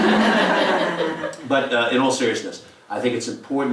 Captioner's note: laugh